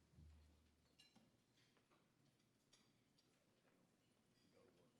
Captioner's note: cutlery clacking